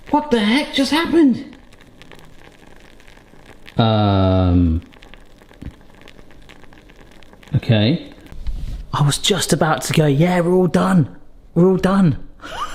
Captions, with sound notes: What the heck just happened? Hmm, (souffle sizzling) okay! I was just about to go, yeah, we're all done. We're all done.